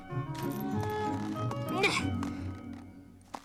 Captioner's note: grunts